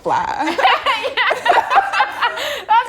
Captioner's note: laughing